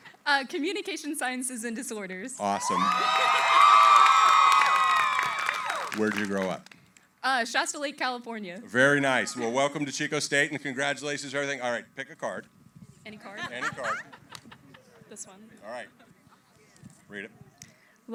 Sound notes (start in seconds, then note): 2.5 cheering, applause